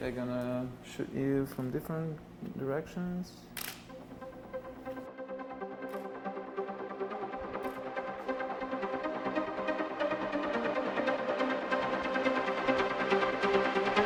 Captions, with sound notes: I'm gonna shoot you from different directions. (camera lens clicking) (energetic music) (camera lens clicking)